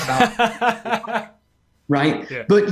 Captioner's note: laughs